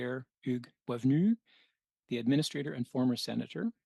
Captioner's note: speaking French